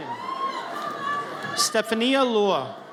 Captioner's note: audience cheers